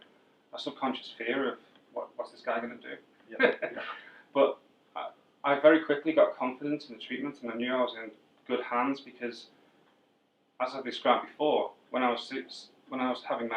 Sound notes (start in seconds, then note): 3.3 laugh